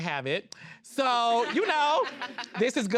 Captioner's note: all laughing